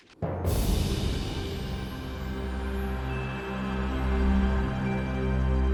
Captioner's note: soft music; wind whooshing